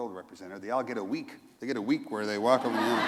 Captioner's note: laughter